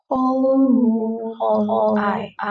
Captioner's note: echos